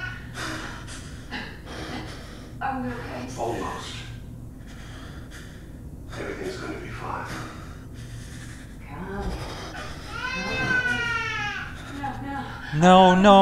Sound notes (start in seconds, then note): 4.9 crying